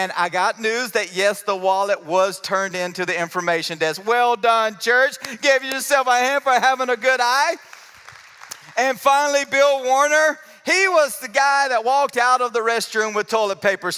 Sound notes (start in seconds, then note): 7.4 applause